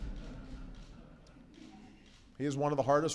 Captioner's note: laughter